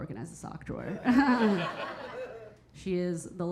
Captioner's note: audience laughing; Keira chuckling